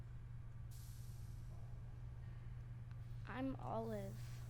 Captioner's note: soft hissing